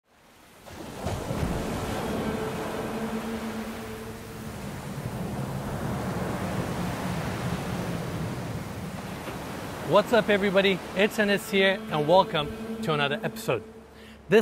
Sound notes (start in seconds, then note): 0.0 guitar strums; 0.0 waves crashing